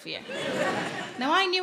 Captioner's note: audience laughing